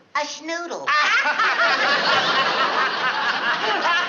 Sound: laughter

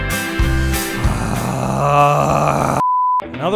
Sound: disgruntled Snarl; beep

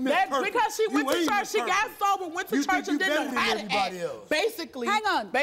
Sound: everyone yelling

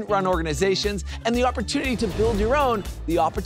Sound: graphics whoosh

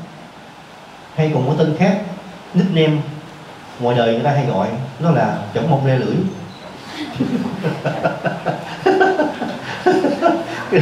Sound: laughter

